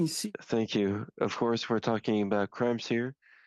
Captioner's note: speaking in French